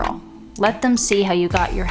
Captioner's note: tapping fingers